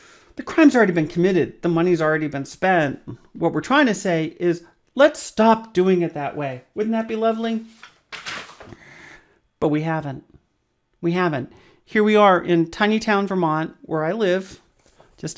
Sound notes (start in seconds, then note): 7.4 rustles papers